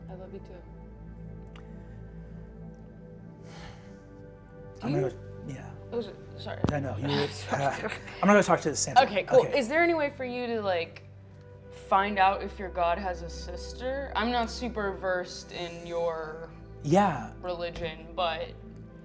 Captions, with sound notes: - I love you, too. - (sighs) "I'm gonna-" - Do you- - "Yeah." - Sorry. - "No. I'm gonna go talk to Sandra Lynn." - Okay, cool, is there any way for you to find out if your god has a sister? I'm not super versed in your religion, but...